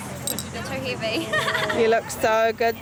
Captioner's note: Sanajli laughs